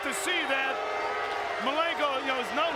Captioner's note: crowd booing